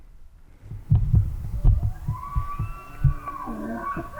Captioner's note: bull bugling